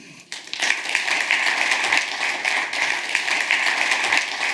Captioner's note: audience applauds